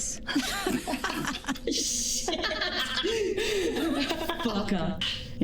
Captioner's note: laughter